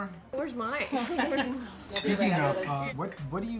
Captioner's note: laughing